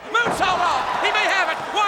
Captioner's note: crowd cheering; hands thudding; body thudding